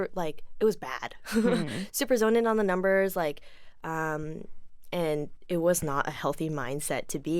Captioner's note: chuckles